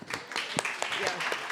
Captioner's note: audience applauding